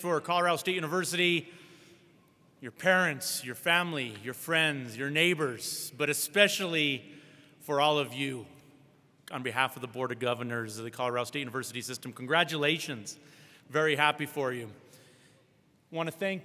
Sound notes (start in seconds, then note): none